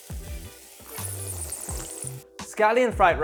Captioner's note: upbeat music; slurps